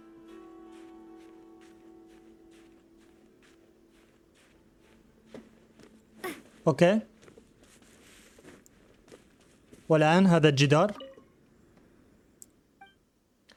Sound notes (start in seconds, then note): 6.2 grunting; 6.9 gentle music